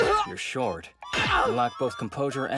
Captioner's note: Asta grunts